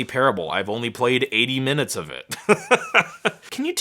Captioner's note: laughing